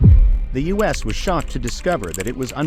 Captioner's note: voiceover